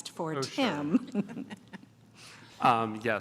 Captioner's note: laughter